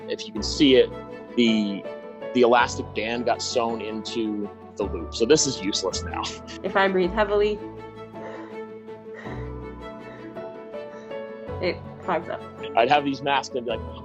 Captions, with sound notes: - If you can see it, the elastic band got sown into the loop so this is useless now (laughs). - If I breathe heavily, (breathes heavily) it fogs up. - I'd have these masks and be like,